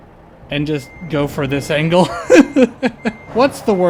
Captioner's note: laughter